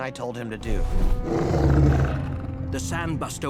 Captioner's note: snarling